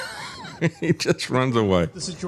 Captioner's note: laughing